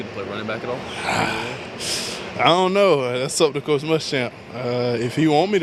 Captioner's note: sighs